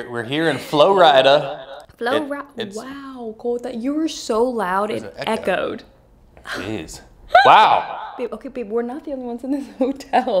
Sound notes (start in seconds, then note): 1.5 voice echoing; 7.7 voice echoing; 9.6 laughing